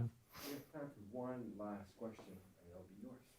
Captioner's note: voiceover